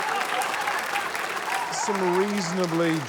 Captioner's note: laughter, applause